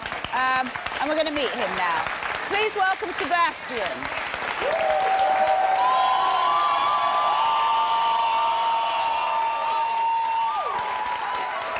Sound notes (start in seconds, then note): 4.6 applause and cheers